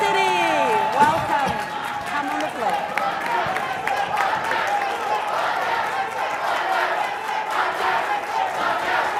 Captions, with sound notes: (audience applauding) Welcome, come on up Lupai. (chanting in foreign language)